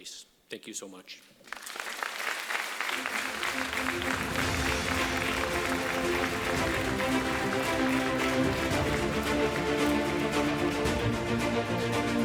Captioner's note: applause, Music